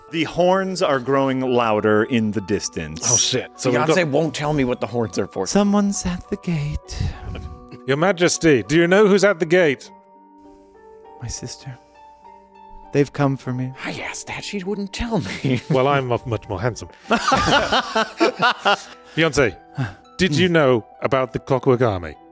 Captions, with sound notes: The horns are growing louder in the distance. Oh, shit. So Beyonce won't tell me what the horns are for. Someone's at the gate. Your Majesty, do you know who's at the gate? My sister. They've come for me. I asked that She wouldn't tell me. Well, I'm much more handsome. [Laughs] Beyonce, did you know about the Clockwork Army?